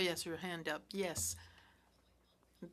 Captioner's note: speaking French